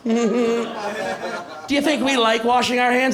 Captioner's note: chuckles